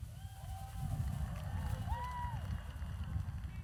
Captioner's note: audience cheers